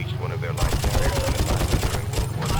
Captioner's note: gun fires